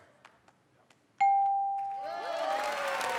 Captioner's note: ding; cheers and applause